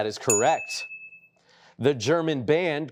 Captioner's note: chiming